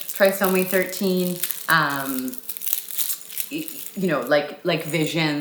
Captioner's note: material crackling